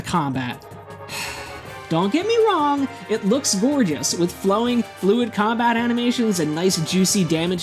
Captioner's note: sigh